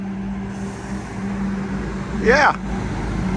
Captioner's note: vehicles whirring